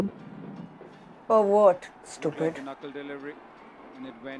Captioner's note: TV playing